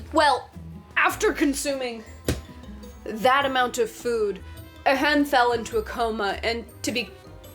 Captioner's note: slap